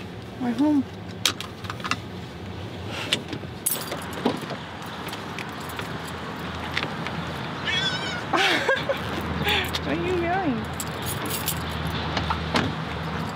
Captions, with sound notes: We're home. (Pudge meows) (laughs) Why are you meowing?